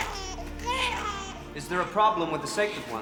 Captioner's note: baby wailing